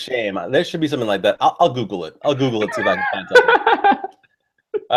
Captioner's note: laughs